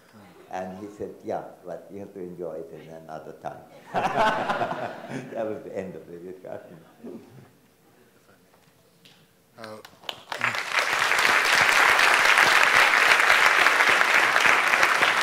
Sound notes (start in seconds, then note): 3.8 everyone laughs; 9.6 audience applauds